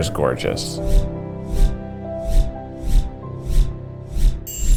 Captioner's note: air whooshing